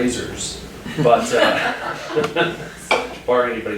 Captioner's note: students laughing